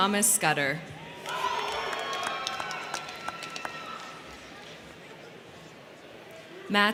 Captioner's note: crowd cheering; crowd clapping